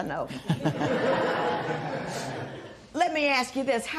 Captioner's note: laughter